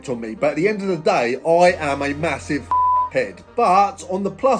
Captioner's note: beep